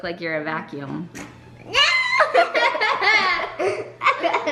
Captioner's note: kids laughing